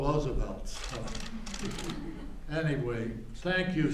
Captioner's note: laughter